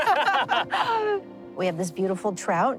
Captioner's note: laughing